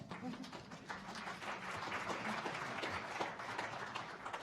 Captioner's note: audience applauding